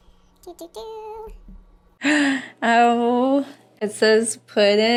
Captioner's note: gasp